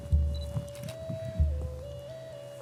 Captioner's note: still camera beep click